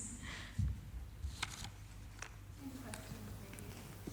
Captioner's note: paper shuffling